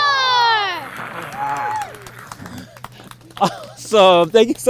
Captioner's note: roaring; clapping